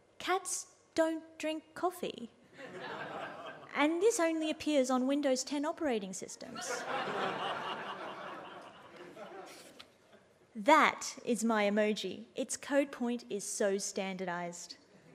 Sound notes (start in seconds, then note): 2.6 audience laughs; 6.6 audience laughs